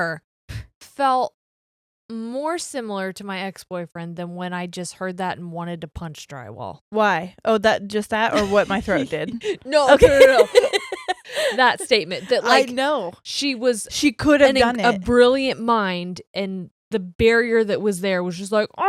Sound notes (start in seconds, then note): 8.3 laughing; 8.3 laughs